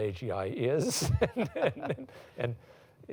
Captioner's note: laughs